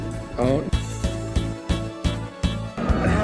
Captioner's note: buzzer and awws